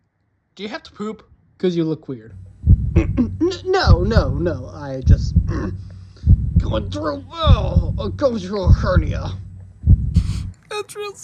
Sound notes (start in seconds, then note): 4.9 groans; 10.2 whimpering